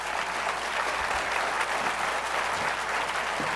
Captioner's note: applause